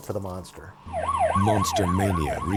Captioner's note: sirens blaring